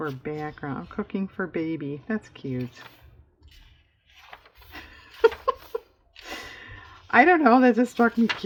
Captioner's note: laughs